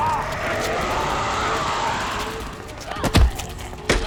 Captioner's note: man and vampire grunting; vampire growls; punch thuds